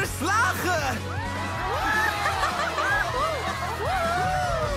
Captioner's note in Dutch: klasgenoten juichen